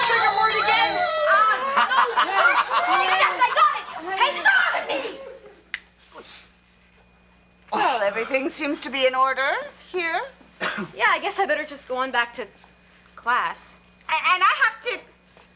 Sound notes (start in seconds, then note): 1.6 George laughing; 2.1 girls and Kevin chattering; 5.7 finger snaps